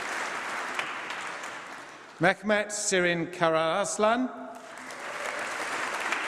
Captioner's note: applause